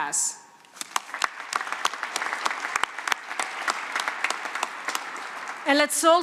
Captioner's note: applause